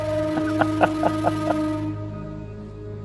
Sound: laughs

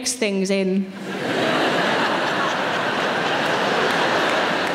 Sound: audience laughing

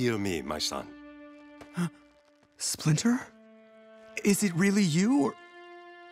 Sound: gasping

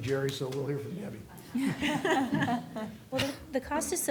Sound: laughter

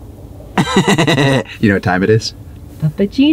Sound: laughing

